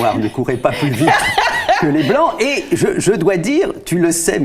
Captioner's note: laughters